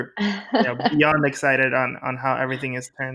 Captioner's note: cat laughing